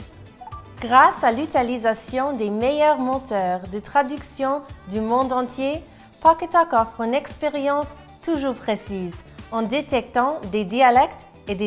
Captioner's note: French